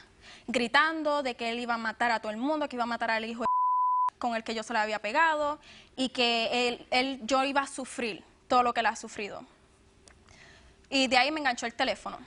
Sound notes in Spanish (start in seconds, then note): 3.4 Bip